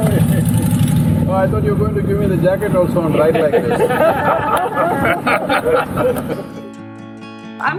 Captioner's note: laughter